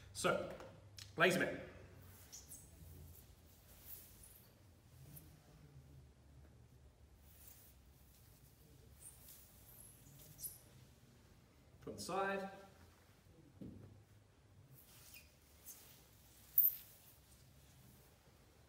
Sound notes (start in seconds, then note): 2.2 floor squeaks; 14.9 floor squeaks